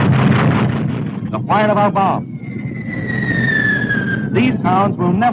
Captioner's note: guns firing; bombs whistling